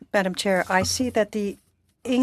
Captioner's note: speaking French